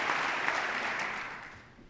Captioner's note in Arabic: تصفيق